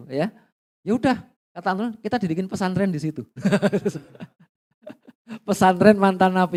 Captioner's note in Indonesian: tertawa